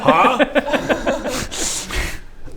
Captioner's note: giggles